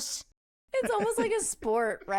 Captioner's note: laughs